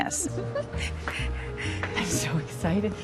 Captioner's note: Norma laughing